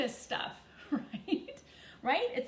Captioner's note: chuckles